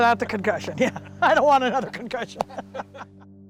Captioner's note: laughs